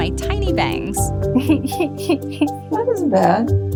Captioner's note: chuckling